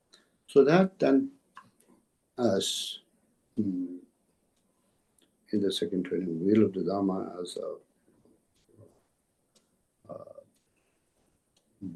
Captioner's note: tibetan